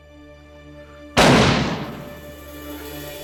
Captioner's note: gun firing; light melodic orchestral music